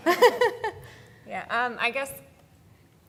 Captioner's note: laughs